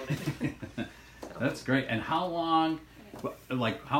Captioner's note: laughs